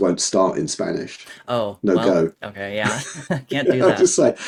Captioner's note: both laughing